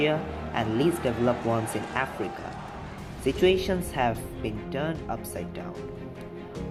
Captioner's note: heavy crowd sound